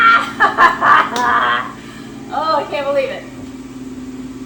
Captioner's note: laughing